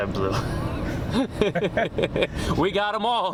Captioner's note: laughter